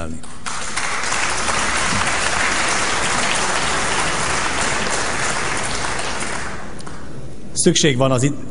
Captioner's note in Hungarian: Taps a kormánypártok soraiban